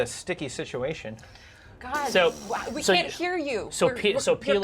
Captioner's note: blows raspberry